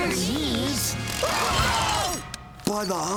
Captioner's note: yelling